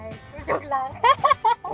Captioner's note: laughs